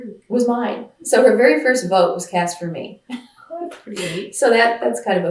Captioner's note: laughs